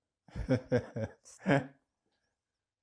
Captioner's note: laughing